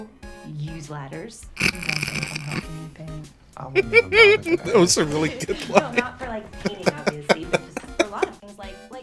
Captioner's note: snort; laughter; laughing further